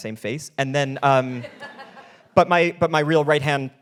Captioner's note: laughing